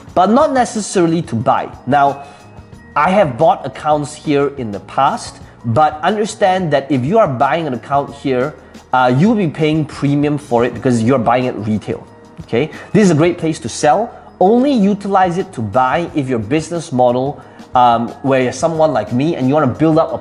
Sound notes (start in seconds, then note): none